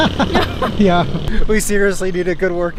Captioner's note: laughs